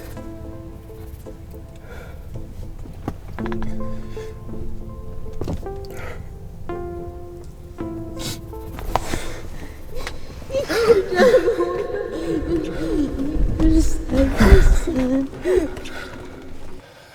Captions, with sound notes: (gasps) Summer, his mother: You could have saved me. You could have saved me son.